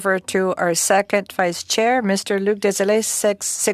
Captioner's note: speaking French